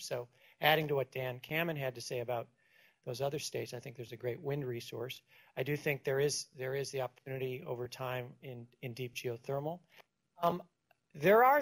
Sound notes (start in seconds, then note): none